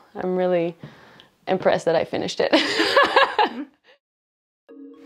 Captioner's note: laughter